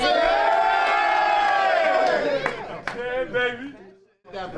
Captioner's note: cheers